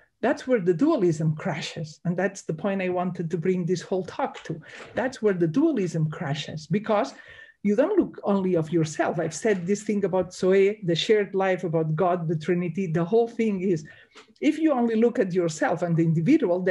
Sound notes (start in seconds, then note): 10.3 speaks in Greek